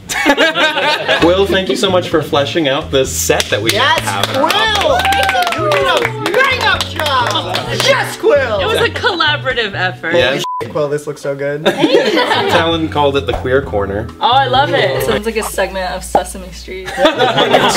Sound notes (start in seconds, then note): 0.0 all laugh; 3.4 all clapping, whoops; 16.8 all laugh